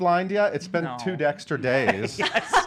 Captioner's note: laughs